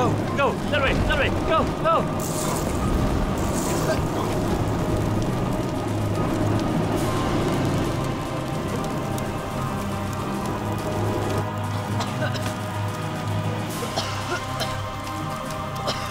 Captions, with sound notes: - Go go, that way, that way, go go. (boys coughing) (intense music)